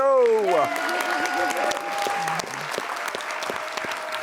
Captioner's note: audience applause